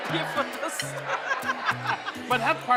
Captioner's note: laughing